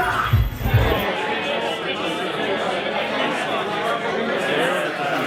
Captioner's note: crowd chattering